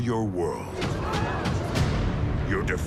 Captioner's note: citizens murmur